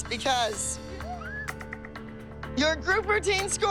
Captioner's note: squealing